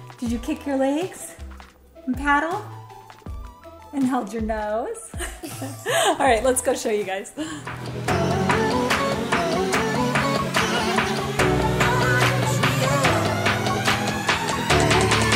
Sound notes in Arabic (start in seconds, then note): 5.2 تضحك; 8.4 موسيقى حيوية